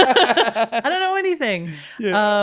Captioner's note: both laughing